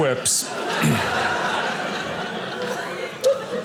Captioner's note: audience laughing